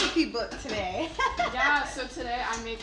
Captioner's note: laughing